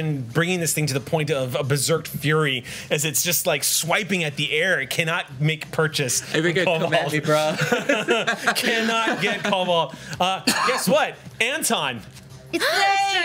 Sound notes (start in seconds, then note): 7.0 laughs